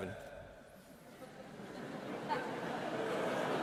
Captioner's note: laughing